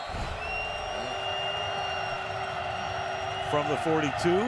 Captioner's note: whistle blowing